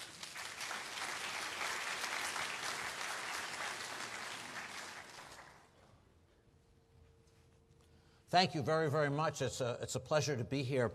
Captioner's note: applause